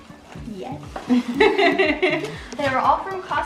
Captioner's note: laugh